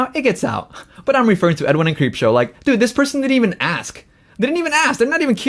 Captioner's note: laughs